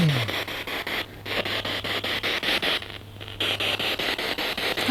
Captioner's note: noise of the spiritbox in the background